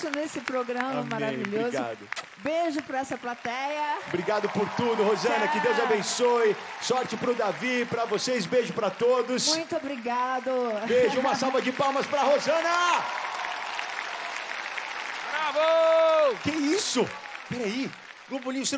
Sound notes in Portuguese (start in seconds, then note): 10.5 riso; 12.9 ovação